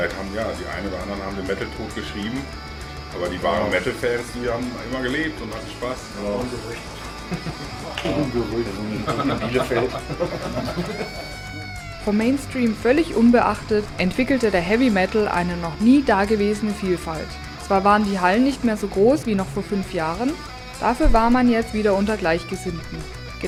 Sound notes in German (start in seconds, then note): 8.6 lachen